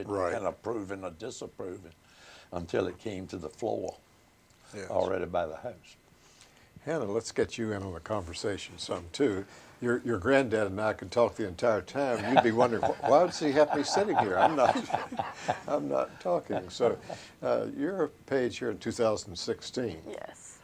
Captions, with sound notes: can't approve it or disapprove it, until it came to the floor, already by the House. - Hannah, let's get you in on the conversation some too. Your granddad and I can talk the entire time. You'd be wondering, "Why does he have to be sitting here? I'm not--" [LAUGHTER] "I'm not talking." So, you're a page here in 2016. - Yes.